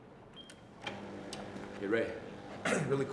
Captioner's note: button clicks; fax machine whirring